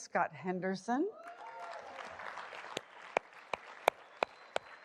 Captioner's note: applause